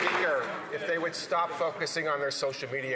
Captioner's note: some Applause